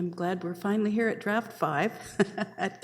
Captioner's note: chuckling